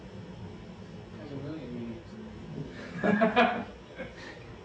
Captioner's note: laughs